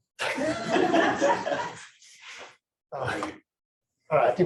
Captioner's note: laughter